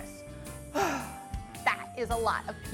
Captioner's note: exhales